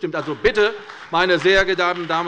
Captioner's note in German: Beifall bei der CDU